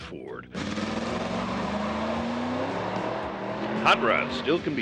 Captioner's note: engine revving